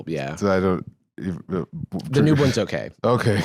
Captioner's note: stammering